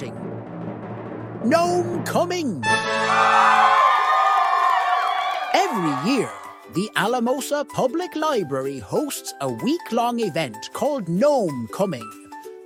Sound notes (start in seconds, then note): 2.7 crowd cheering